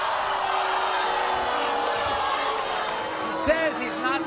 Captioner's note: audience screams; audience boos